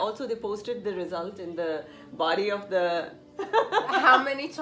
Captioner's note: laughs